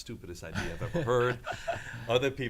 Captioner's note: laughs